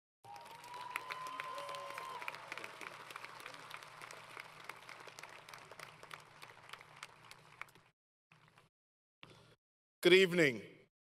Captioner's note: applause